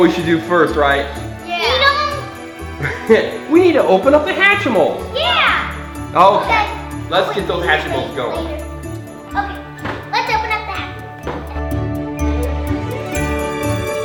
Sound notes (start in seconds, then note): 2.8 cameraman laughs; 8.8 upbeat music; 11.4 upbeat music